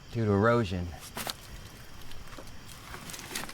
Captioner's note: footsteps crunching; insects chittering